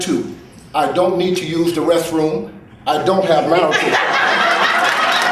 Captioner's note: crowd laughing